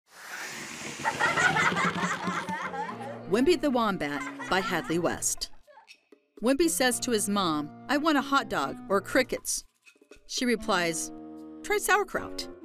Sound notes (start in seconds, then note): 0.9 children laughing